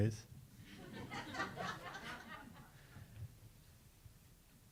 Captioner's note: audience laughs